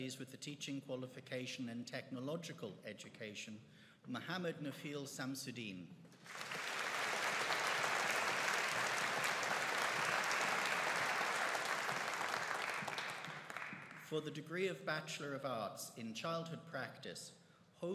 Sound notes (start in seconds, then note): 6.2 audience applauding